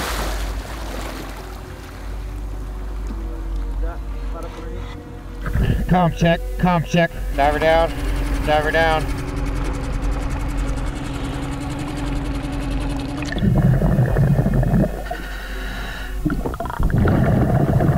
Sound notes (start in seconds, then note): 0.0 water splashing; 9.7 boat engine revving; 13.7 water bubbling